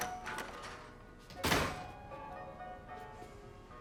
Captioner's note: door slams